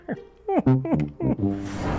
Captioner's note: laughing